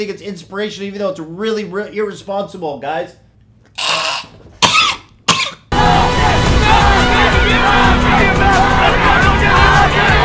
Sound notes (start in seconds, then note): 3.8 human screech; 4.6 cough; 5.7 crowd chanting